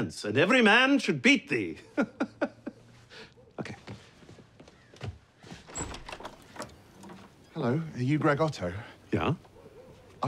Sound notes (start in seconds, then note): 1.8 chuckles; 7.2 British accent